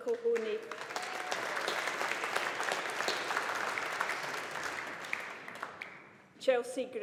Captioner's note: audience applauding